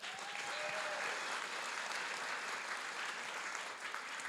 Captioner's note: audience clapping